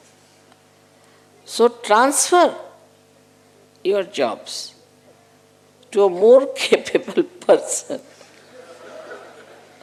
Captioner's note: Shri Mataji laughs